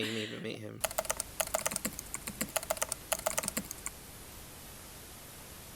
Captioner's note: keyboard keys clicking